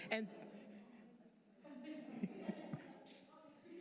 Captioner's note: laughter